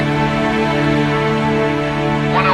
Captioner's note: man on radio